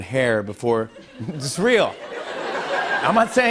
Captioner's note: laughter